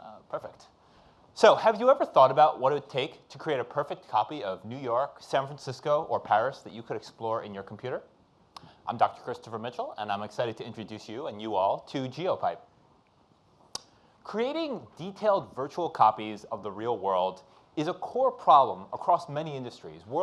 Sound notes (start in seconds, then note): none